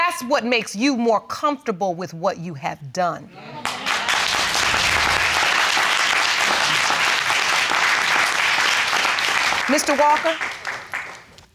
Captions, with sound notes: That's what makes you more comfortable with what you have done. (AUDIENCE CLAPPING) Mr. Walker,